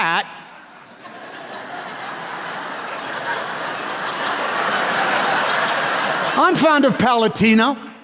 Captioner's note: laughter